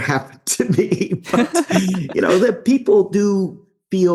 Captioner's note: laughing